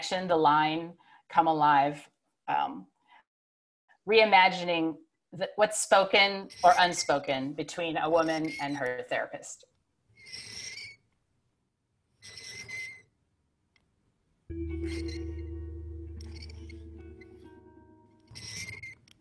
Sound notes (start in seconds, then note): 12.2 repeated squeaking